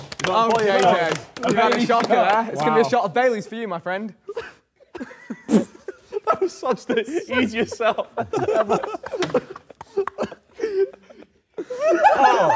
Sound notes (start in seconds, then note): 9.4 laughs